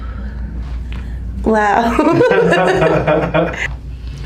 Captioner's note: breathes shakily